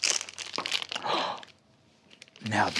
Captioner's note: gasps